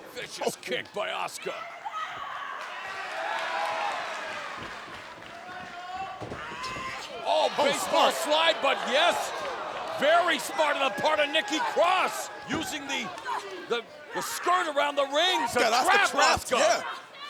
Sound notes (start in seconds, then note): 2.8 crowd cheers